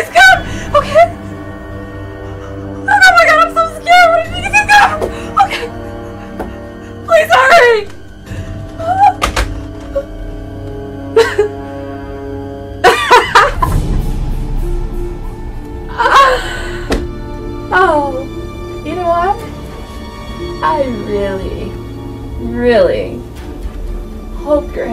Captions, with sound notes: Please come, okay? Oh my God, I'm so scared. (Janet cries) Please hurry. (Janet laughs) You know what? I really really hope your headache gets better.